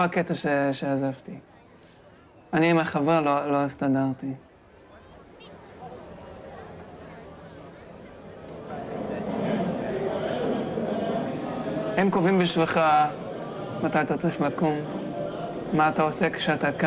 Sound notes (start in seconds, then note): 5.9 people chattering in foreign language; 12.0 young man speaking in foreign language